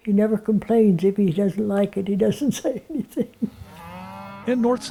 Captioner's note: laughs